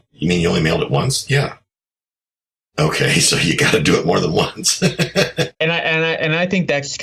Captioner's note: laughs